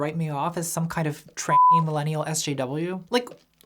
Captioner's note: beep